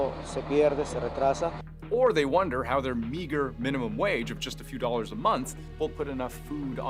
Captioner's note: speaking alternate language